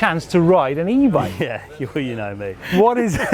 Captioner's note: laughs